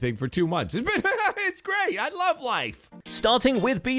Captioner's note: forced manic laughter